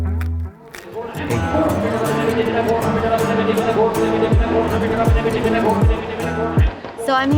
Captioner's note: upbeat country music; auctioneer chattering